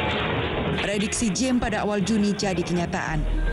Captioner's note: non-english speech